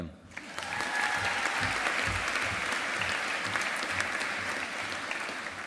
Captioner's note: audience applauding